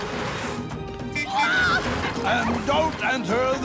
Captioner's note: honking